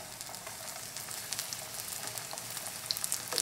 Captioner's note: sizzling